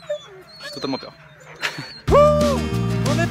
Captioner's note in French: rire